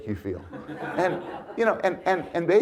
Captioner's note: audience laughs